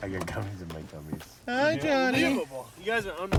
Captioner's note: singsong voice